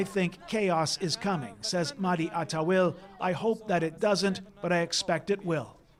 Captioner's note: speaking alternate language